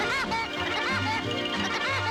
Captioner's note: maniacal laugh